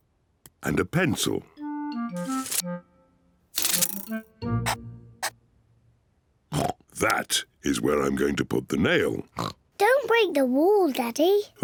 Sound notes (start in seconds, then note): 5.9 oinks